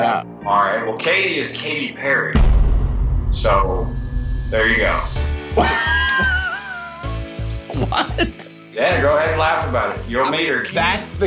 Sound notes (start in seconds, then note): 5.2 exciting music; 5.5 laughing